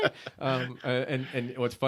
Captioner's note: laughing